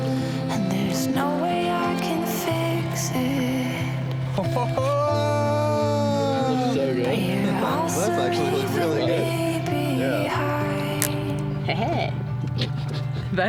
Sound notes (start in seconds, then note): 4.8 whooping; 11.6 chuckling